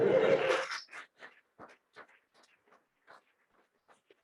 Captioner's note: laughing